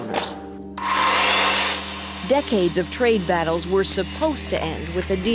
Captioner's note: buzzing